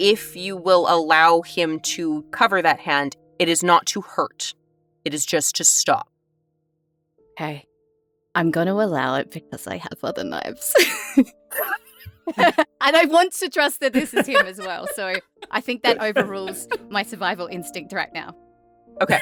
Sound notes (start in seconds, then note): 11.5 giggles